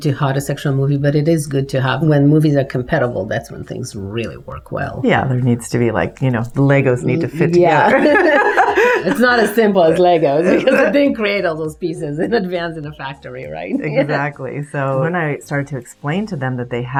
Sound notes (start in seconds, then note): 7.7 both laughing